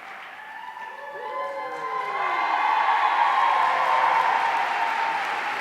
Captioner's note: audience cheering